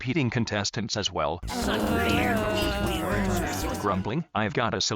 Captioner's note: grumbling